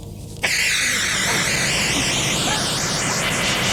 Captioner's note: fumes hissing